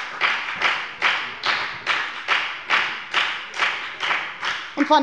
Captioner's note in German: Lebhafter Beifall bei der FDP